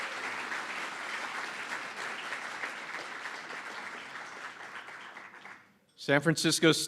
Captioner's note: applause